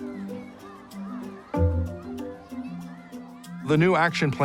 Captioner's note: gentle music; kids shouting